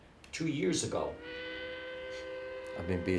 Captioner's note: train whistle blowing